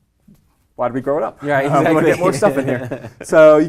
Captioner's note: laugh